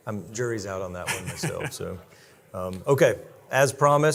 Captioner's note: laughing